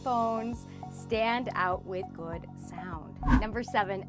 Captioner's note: air whooshes